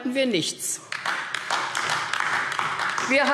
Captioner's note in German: Beifall AfD